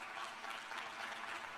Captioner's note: applause